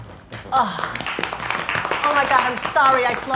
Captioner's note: audience clapping